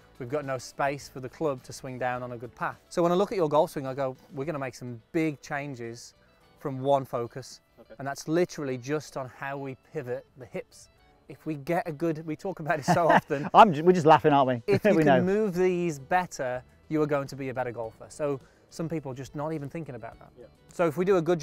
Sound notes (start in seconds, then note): 12.8 laughing